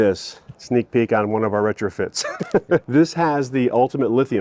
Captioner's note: laughs